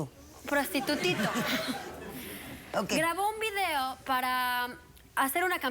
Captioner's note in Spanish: risas